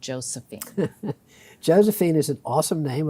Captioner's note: chuckles